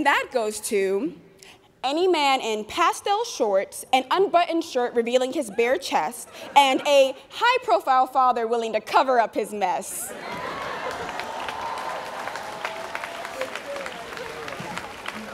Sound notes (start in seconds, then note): 10.1 students cheering